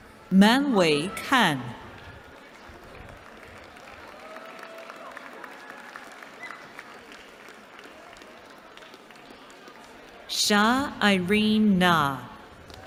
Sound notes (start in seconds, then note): 1.9 applause